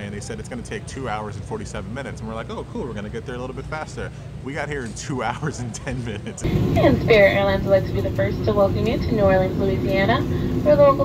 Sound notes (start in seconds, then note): 6.2 laughs